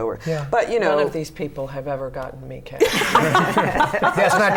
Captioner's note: laughter